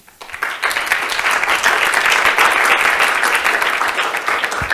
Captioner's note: audience applauding